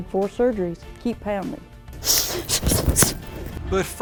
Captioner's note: sharp breathing